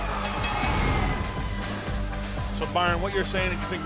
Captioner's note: bell binging